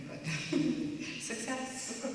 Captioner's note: chuckling